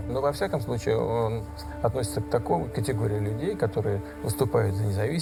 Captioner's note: speaking foreign language